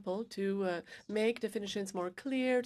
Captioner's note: speaking French